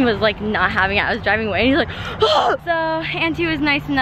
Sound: screams

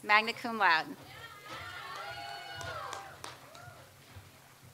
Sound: audience applauds

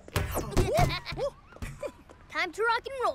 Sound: giggling

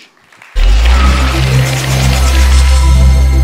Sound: applause

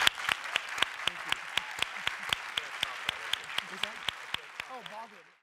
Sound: audience applauding

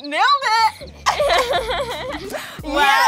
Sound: laughing

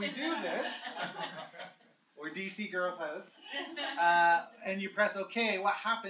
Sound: laughter

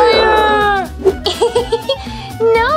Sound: bat laughs

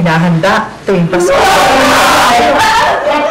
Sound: wailing

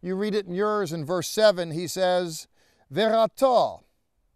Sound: speaking in Hebrew

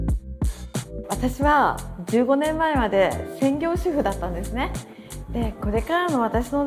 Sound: light upbeat music; speaking in foreign language

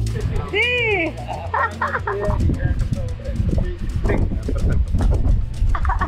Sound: laughs loudly

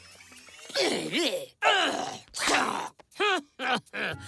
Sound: grunting

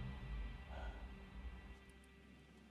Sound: he takes a breath

